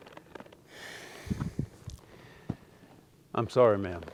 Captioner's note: Austin sighs